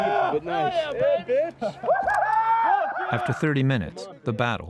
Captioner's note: cheers